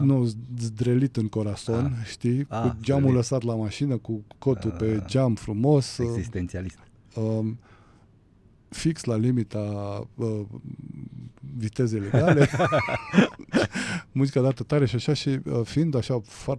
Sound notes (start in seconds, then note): 12.0 laughter